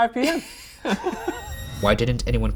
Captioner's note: laughing; eerie music